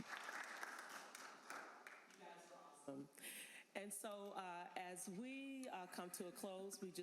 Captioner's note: applause